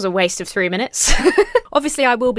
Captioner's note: laughs